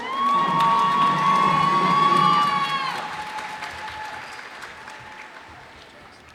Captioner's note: cheers and applause